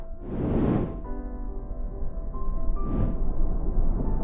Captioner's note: whooshing